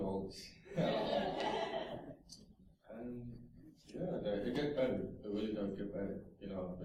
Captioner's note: laughter